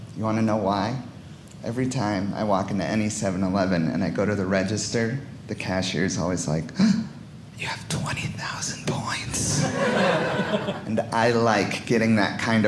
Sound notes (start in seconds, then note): 9.5 audience laughing